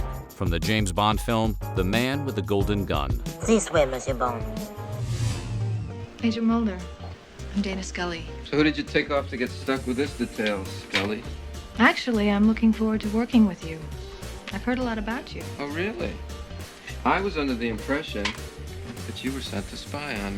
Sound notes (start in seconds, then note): 3.4 speaking french